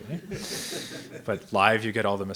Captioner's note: audience members laughs